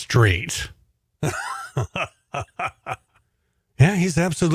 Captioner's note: chuckles